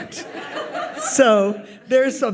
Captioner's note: audience laughs